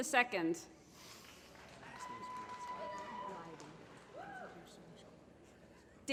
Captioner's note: applause